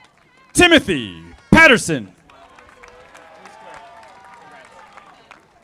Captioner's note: audience applauding